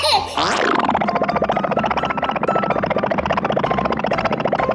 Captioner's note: bubbly puttering